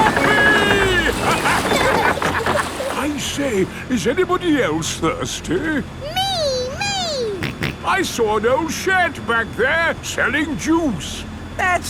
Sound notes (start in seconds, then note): 7.5 snorts